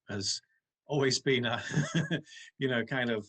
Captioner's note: chuckles